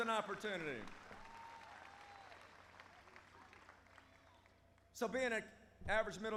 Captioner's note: applause